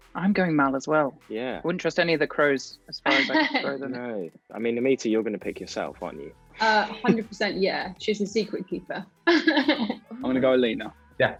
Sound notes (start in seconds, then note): 3.0 Aminta laughs; 9.2 Amita laughs